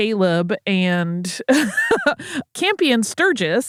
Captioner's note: laughs